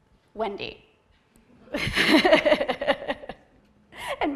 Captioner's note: laughter